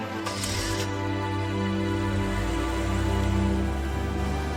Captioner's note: engine revving